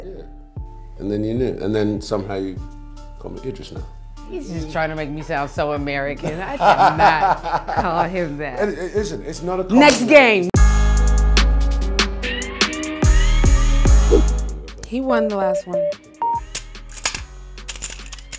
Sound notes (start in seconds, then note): 10.4 clapping; 10.9 intense music; 16.2 beeping